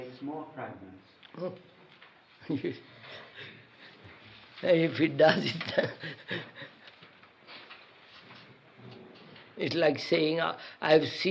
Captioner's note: laughs